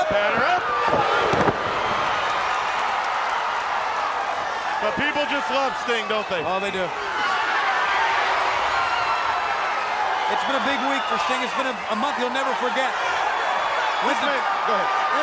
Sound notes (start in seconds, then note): 1.5 Ric thudding on ring; 2.8 crowd cheering; 7.8 crowd cheering